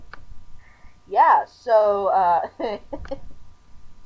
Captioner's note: laughing